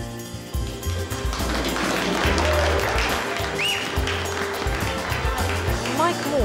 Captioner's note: instrumental music; applause